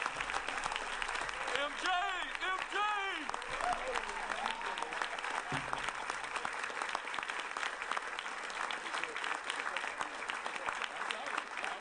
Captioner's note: applause